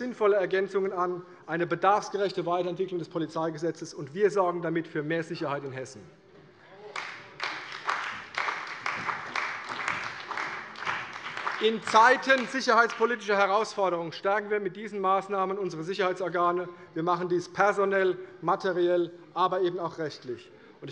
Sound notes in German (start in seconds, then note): 6.9 Beifall bei der CDU und dem BÜNDNIS 90/DIE GRÜNEN